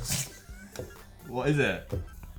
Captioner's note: chuckles